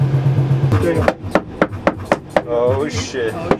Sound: hammer banging

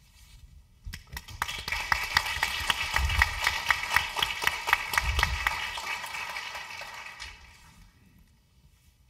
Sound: applause

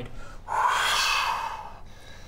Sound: whoooosh!

